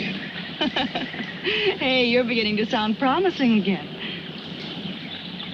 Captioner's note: laughing